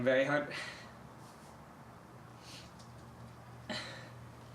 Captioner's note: crying